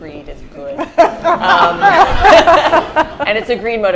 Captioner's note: laughter